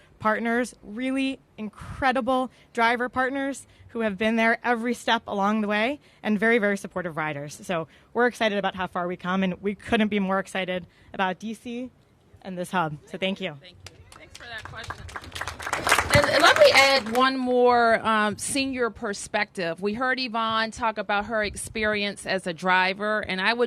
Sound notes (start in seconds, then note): 16.5 applause